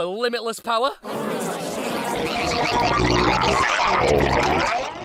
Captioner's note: strange alien noises